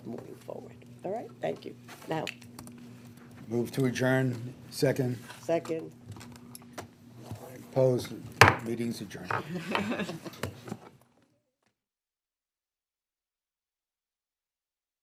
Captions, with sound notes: moving forward. Alright? Thank you. Now. >> Move to adjourn. Second? >> Second. >> Opposed? [ Gavel bangs ] Meeting's adjourned. >> [ Chuckles ]